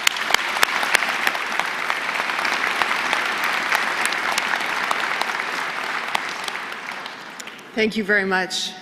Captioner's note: applause